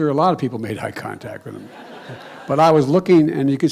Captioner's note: laughter